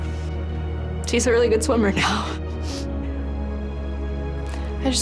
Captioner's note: sniffs